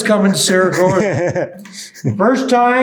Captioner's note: laughing